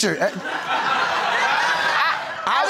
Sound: crowd laughing

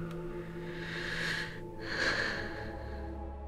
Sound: sighs

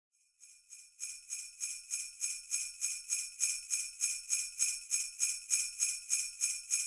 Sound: sleigh bells jingle

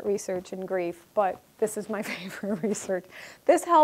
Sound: chuckling

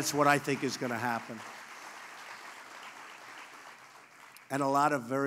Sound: applause

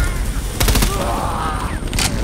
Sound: gunshots

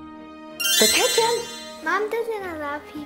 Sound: magical tinkling

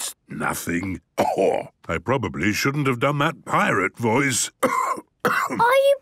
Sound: cough

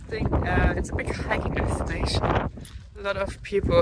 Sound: air whooshing

